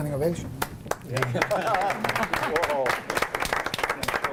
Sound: applauding

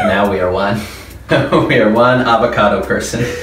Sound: laughs

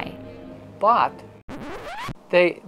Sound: record scratch

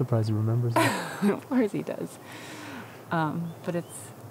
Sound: laughs

